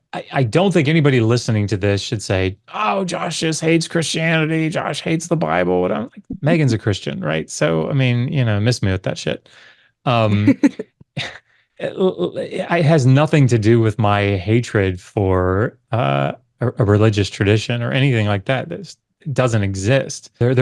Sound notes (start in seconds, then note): 10.2 laughs